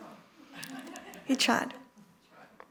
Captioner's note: laughter